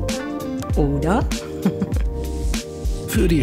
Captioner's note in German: lacht